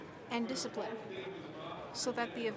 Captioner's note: speaking French